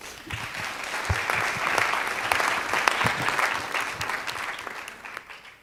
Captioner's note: applause